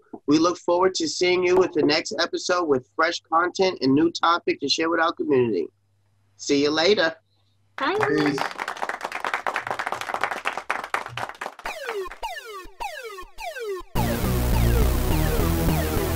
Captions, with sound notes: We look forward to seeing you at the next episode with fresh content and new topic to share with our community. See you later. - Bye. - Peace. (applause sound effect) (electronic music)